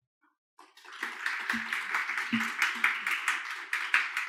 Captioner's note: audience clapping